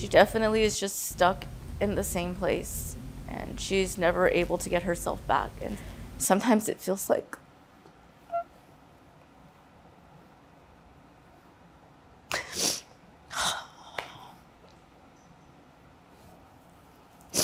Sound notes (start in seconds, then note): 8.2 crying; 12.3 sniffles; 13.7 exhales sharply